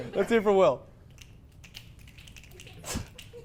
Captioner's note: still the same frequency of snapping except now its slightly quieter